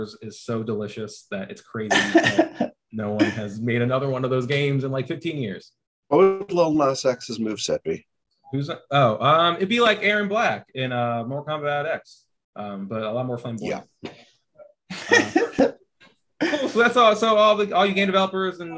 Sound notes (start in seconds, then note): 1.8 laughing; 14.9 laughing